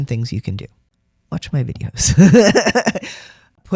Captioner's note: laughter